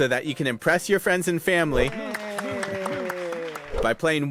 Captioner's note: people clapping and cheering